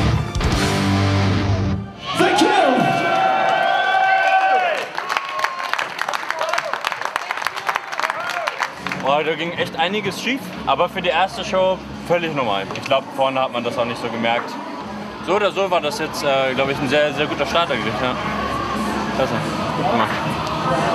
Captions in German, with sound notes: (Schlussakkord) Thank you! (Jubelrufe) Da ging echt einiges schief, aber für die erste Show völlig normal. Ich glaube, vorne hat man das nicht so gemerkt. So oder so war das ein sehr guter Start eigentlich. Klasse. Gut gemacht.